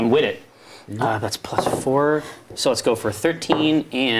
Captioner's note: die rolling